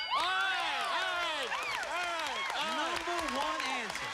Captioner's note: cheers and applause